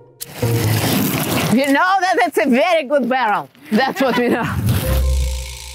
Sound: laughs

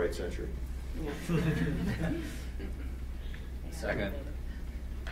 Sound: several people laugh

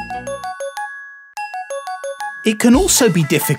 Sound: phone ringing

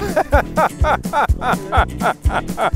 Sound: laughs

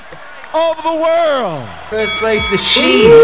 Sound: drumming on the counter

